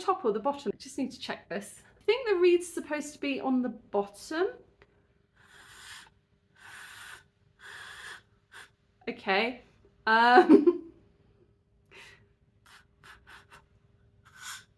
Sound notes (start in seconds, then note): 5.2 blowing, no sound coming out